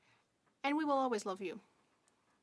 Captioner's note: speaking French